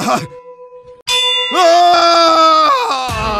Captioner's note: screaming